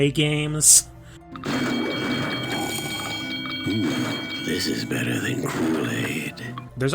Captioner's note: slurp